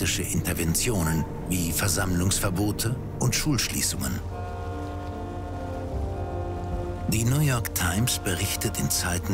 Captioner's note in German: Schiffshorn